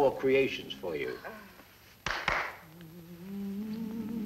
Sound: two hand claps

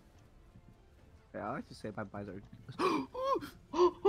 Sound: gasp

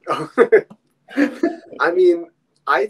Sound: laughing

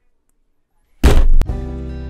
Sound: earthquake

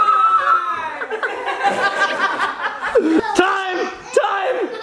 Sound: all laughing

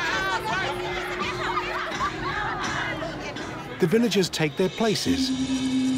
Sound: girls laughing

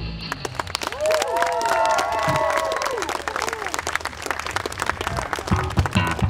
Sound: audience cheers and applauds

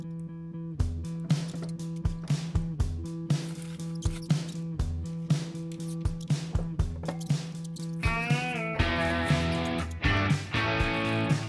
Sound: mouse squeaks; rock music

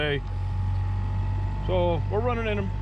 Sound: boat engine running

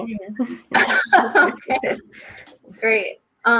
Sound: laughing

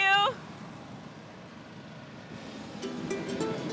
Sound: burner whirring; soft music

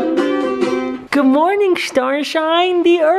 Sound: voiceover

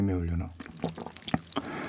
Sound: gulps

